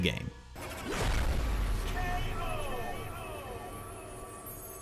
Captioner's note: dramatic K.O. sound